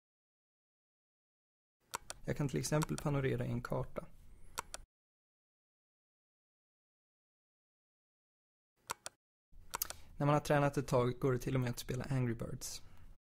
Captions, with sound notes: I can for example pan a map. [Click] [Click] [Click] When you have practised for a while you can even play Angry Birds.